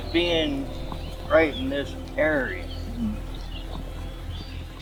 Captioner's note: birds chirping